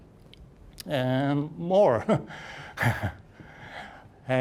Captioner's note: chuckling